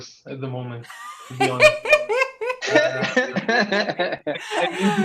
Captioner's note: people laughing